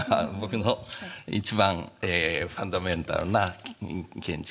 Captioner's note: speaking japanese